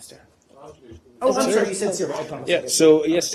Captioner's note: off-mike